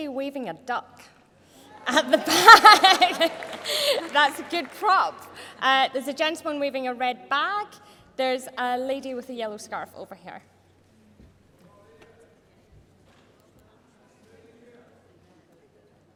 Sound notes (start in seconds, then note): 7.7 laughter